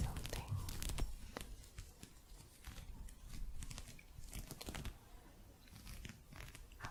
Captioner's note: gentle scratching